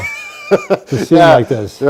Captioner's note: laughs